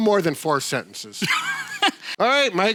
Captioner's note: laughs